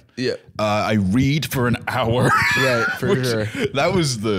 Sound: laughs

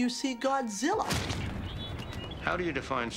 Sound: foot smashing

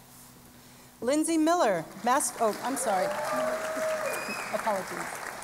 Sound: applause

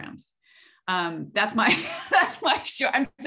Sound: laughs

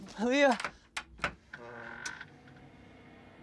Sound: door creaks open

